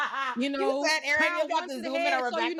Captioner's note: laughing